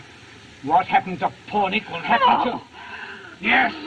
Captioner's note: moans